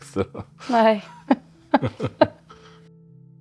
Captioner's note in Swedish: Skratt